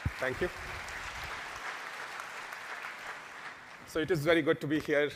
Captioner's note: applause